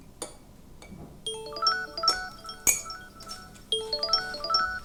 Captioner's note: line ringing